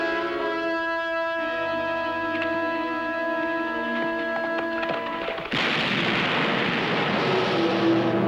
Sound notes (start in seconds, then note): 5.4 gunshot